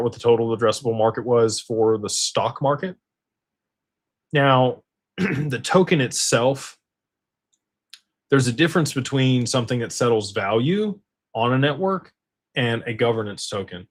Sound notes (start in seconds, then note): 5.2 clears throat